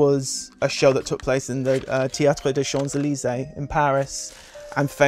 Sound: speaking French

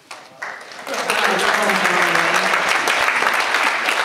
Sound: audience applauds

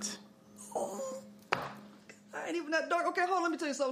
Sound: whines

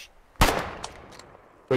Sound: pow

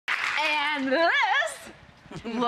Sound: audience applauds

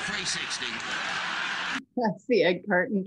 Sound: audience laughing

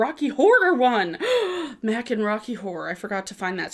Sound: gasping

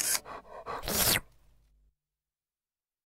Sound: dog Lick

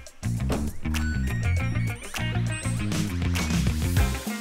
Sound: electronic beeps

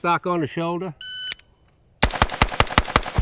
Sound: timer beeps; rifle firing

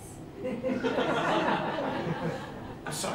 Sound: laughter

